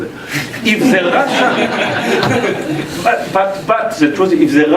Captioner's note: laugh